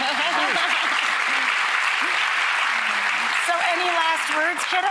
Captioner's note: applause